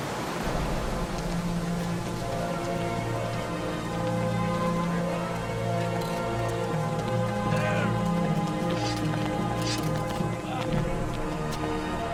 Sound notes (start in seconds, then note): 0.3 somber orchestral music; 5.1 soldiers yelling; 8.7 sword unsheathing